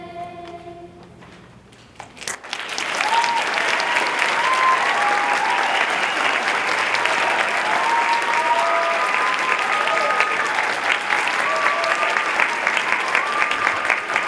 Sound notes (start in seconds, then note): 2.0 applause